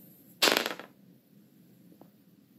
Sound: die clanking

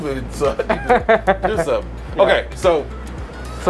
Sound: laughs

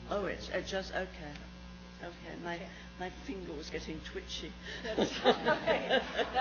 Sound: laughs

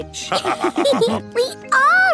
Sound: all laughing

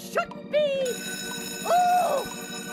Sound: bell rings

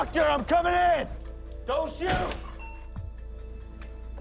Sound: beep

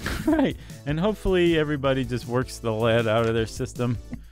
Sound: laughs

